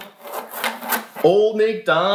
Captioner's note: toy scraping